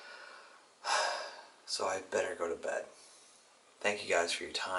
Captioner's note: sighs